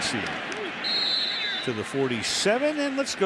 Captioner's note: whistle blows